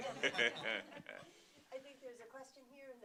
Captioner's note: laughter